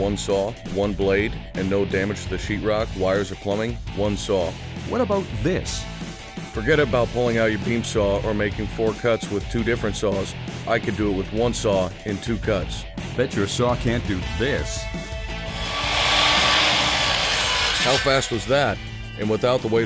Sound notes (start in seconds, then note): 5.4 voiceover; 13.5 voiceover; 15.0 saw cutting